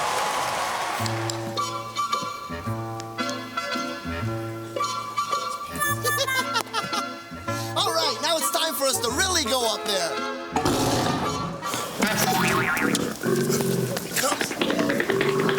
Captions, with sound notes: [ LAUGHS ] ALL RIGHT, NOW IT'S TIME FOR US TO REALLY GO UP THERE. [ GROWLING ] HERE HE COMES!